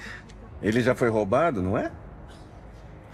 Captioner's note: in English